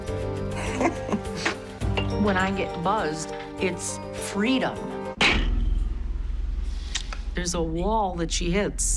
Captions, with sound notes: [laughing] When I get buzzed, it's freedom. [cup slams] There's a wall that she hits.